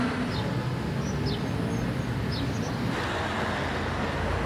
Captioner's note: birds chirping